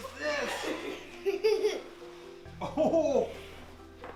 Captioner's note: laughing